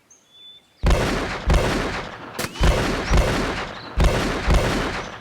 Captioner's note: guns continue banging